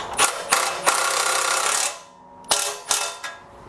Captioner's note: tool drilling